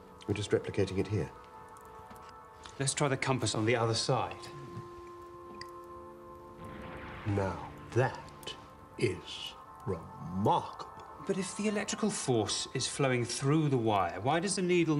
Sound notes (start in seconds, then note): none